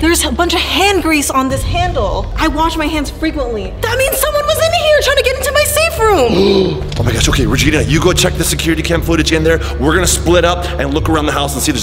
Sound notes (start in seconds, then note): 6.2 gasping